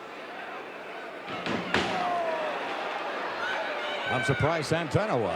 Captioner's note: feet thudding